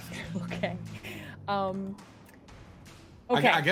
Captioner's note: chuckles